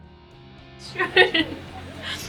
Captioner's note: laughter